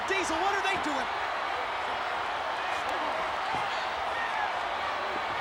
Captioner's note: crowd cheering